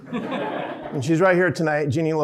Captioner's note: audience laughing